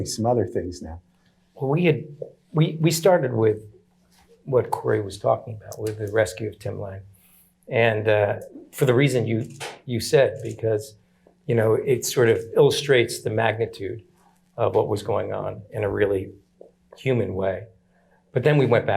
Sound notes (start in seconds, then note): none